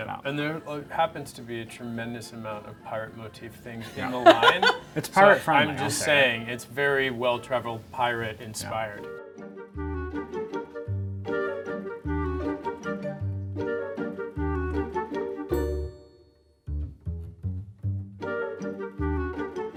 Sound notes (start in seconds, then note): 3.8 laughing; 9.0 whimsical music